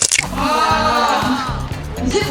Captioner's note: void echo of sigh